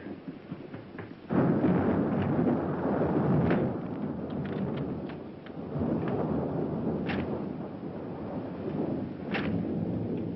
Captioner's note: thunder